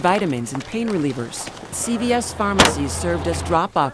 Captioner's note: pumping at well